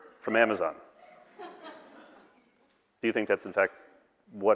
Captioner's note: audience laughing